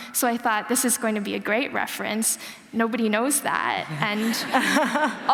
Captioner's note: laughter